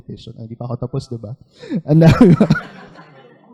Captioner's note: laughter